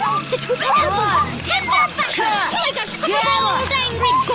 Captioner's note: rabble of encouragement